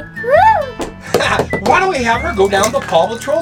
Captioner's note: laughs